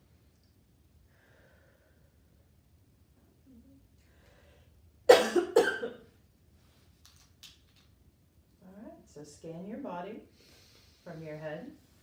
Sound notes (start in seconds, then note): 1.1 breathing deeply